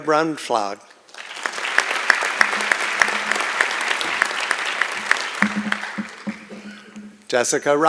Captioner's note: applause